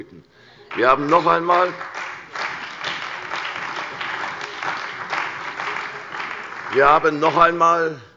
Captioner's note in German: Beifall bei der CDU und dem BÜNDNIS 90/DIE GRÜNEN